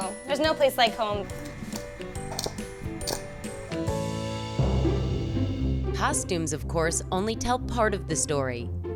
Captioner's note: clicks shoes